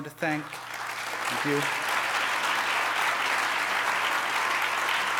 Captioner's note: audience applause